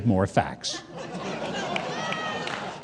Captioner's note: audience laugh; audience clap